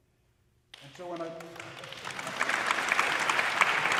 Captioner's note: audience applauding